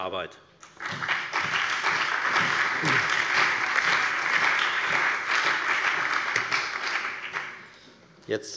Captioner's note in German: Allgemeiner Beifall